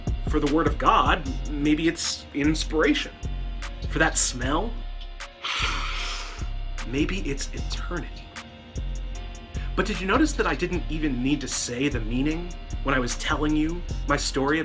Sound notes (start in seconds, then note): 5.4 sniff